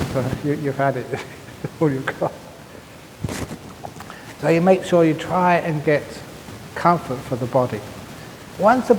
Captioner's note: laughs